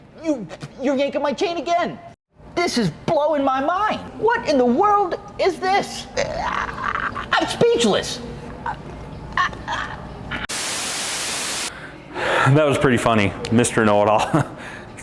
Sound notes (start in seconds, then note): 8.8 stutters; 10.5 static noise